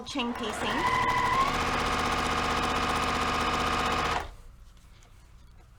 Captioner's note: sewing machine rattling